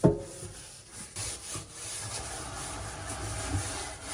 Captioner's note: scrubbing